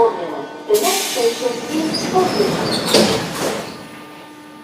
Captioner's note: closing doors of the train in another direction; closing doors